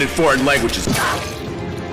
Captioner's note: gunshot